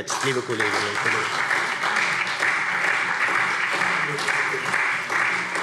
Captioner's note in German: Beifall SPD